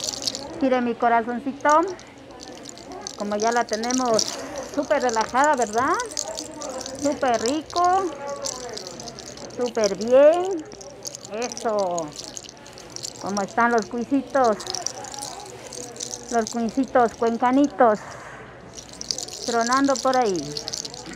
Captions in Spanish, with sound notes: gire mi corazón como ya la tenemos súper relajada verdad súper rico súper bien eso como están los cuyes (sonido al girar el cuello) los cuyes Cuencanos tronando por ahí